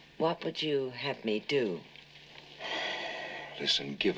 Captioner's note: sighs